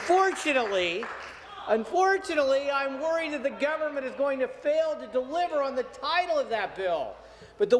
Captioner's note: some Applause